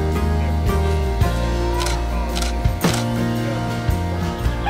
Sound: sound of camera's shutter clicking

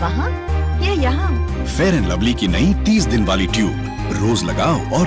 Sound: speaking in native language

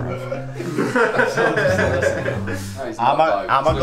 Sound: group laughter

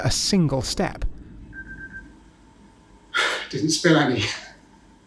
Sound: alarm beeps

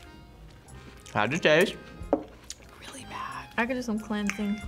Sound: whispers

